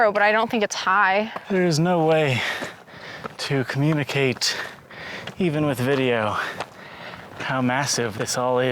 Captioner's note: breathing heavily